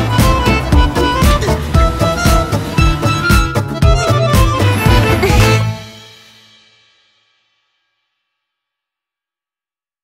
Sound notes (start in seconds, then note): 5.0 giggles